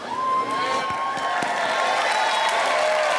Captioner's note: applause